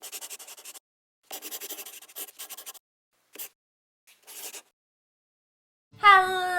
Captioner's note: the sound of a pen scratching